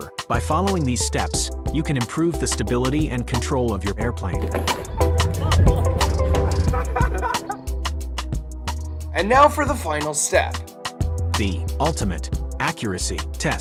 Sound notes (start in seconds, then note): 5.0 people laughing